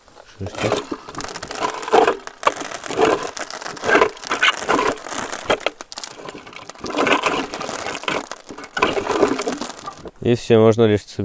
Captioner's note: grinding sound